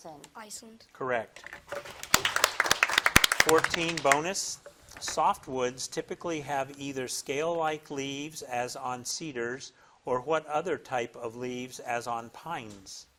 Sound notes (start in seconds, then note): 1.7 audience applauding